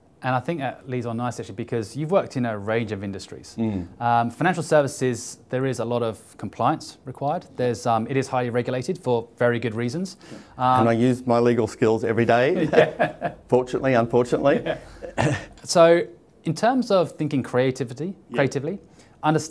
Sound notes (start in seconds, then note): 12.5 laughs